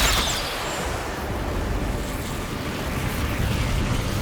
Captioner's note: arrows whooshing